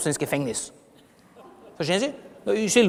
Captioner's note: laughter from the audience